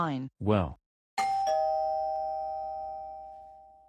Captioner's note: doorbell